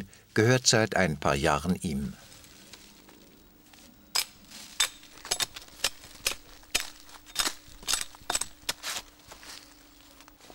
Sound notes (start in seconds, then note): 2.0 crackling